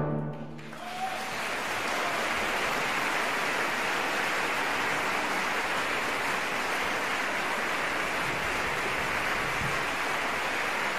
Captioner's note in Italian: applauso